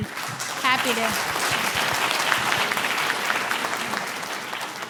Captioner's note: audience applauding